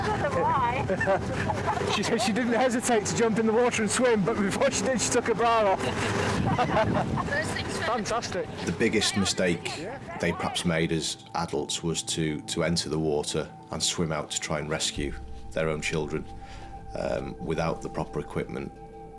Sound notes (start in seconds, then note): 0.9 laughing; 5.6 laughing